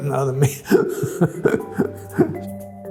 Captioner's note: chuckles